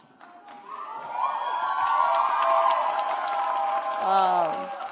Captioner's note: audience applauds